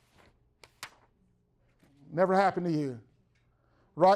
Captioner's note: shuffling papers